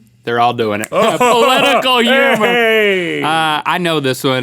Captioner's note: forced laugher; snaps